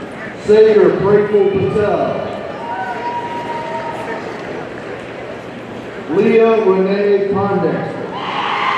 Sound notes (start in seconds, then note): 2.5 audience cheers; 8.2 audience cheering